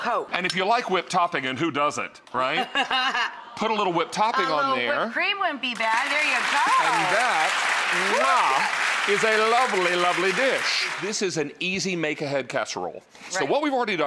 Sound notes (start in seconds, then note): 2.6 laughs; 5.7 audience applauds